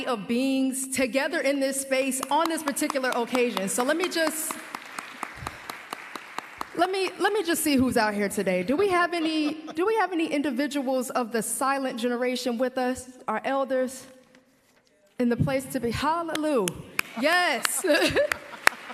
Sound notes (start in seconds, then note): 2.2 applause; 15.3 applause